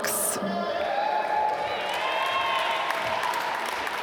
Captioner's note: applause